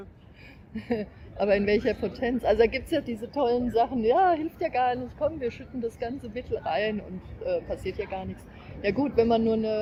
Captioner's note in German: lacht